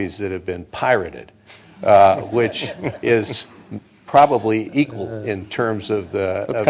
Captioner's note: laughter